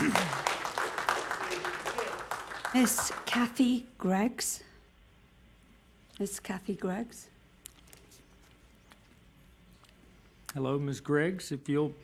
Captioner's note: applause